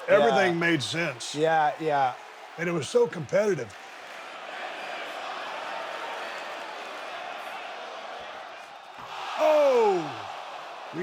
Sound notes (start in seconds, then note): 4.8 audience cheers